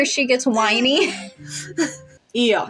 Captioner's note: chuckle; quiet Laugh